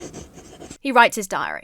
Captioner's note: pen scribbles